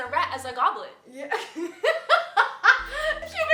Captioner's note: laughing